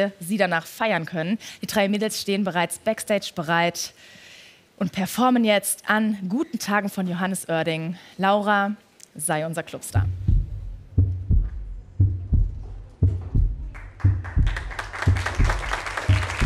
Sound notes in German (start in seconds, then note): 13.7 Applaus